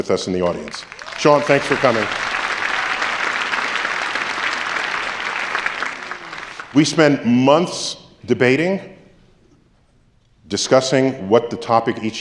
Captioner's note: applause